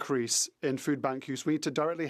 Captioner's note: speaking French